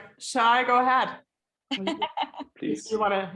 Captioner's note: laughs